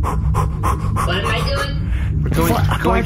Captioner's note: pumping up noises